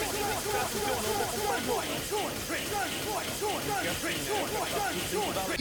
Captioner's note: Alanzoka's livestream in the background